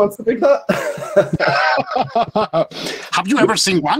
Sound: panelists laughing

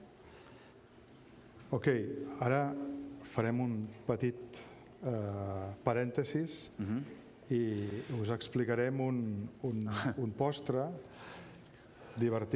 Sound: speaking catalan

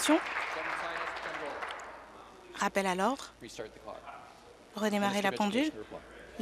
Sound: applause

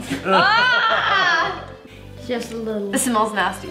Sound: laughing

